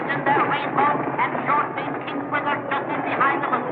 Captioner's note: track announcer calling the race of the irish steeplechase